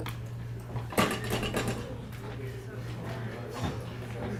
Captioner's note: class chattering